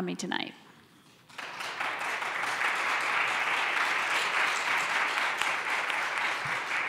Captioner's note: applause